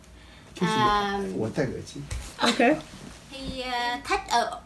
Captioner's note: speaks in Mandarin to excuse himself for a minute